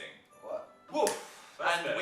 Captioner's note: fingers snapping